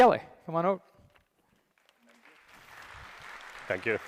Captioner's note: applause